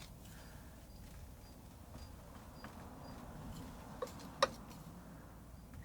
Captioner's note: scratching sounds